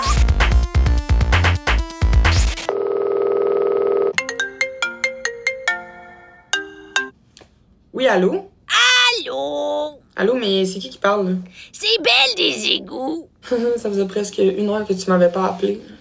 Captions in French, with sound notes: *Sonnerie de téléphone* Oui allô? Allô! Allô?! Mais c’est qui qui parle là?! C’est Belle des égouts! Ça faisait presqu’une heure que tu m’avais pas appelée.